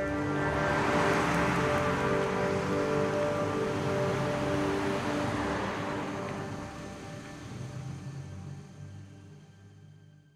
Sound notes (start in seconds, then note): 0.5 automobile humming